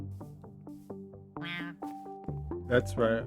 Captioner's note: creature sound